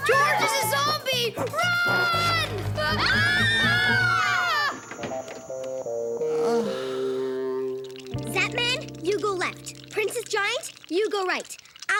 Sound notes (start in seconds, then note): 2.8 screaming; 6.2 sighs